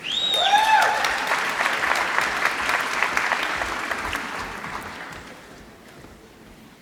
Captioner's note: applause